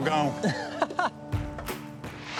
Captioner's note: laughs